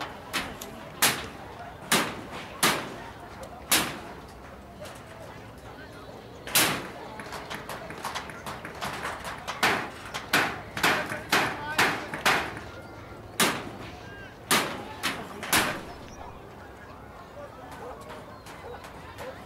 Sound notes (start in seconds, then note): 10.2 hammering noise continues